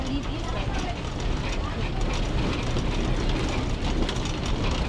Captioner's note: people talk randomly